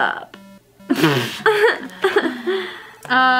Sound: laughs

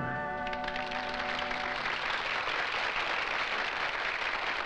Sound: crowd applauding

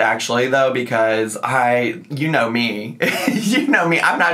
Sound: laughs

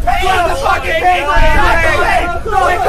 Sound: yelling over each other

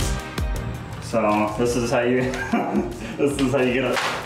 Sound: laughs

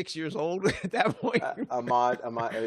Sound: laughs

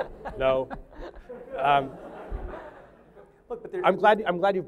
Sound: laughter

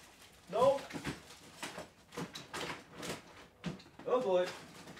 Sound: rustling

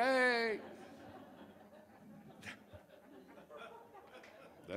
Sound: audience laughs

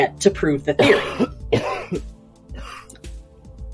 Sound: coughs

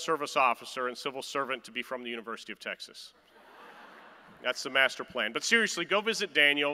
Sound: laughter

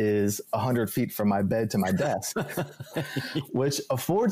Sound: laughs

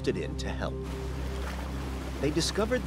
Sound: water splashing

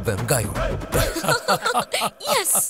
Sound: laughs

